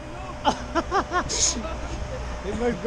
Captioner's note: laughing